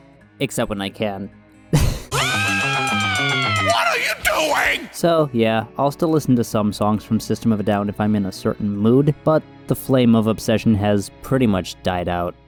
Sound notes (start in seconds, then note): 1.8 laughs; 2.9 chipmunk voice